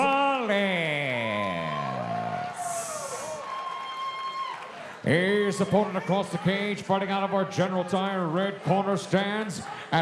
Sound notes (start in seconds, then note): 2.9 audience cheering